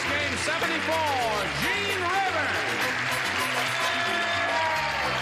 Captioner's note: cheers and applause